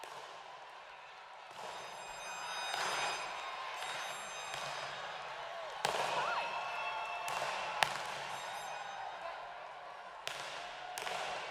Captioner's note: cheers and applause